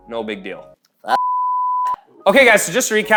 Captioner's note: beep